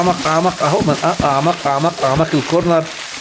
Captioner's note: laughs!